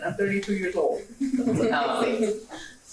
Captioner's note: laughs